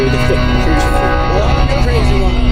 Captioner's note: laughing